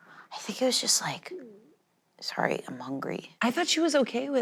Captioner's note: stomach growling